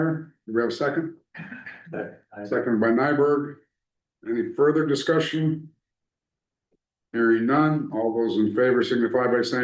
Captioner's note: clears throat